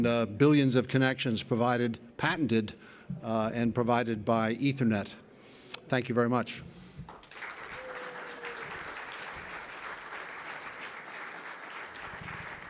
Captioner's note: clapping